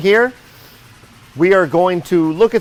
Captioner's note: machines roaring